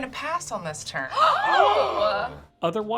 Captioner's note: everyone gasps